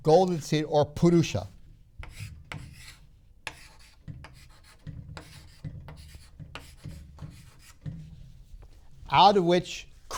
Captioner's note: marker writing on board